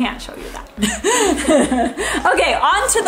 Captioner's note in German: lacht